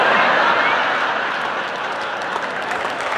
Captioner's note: audience laughing; audience applauding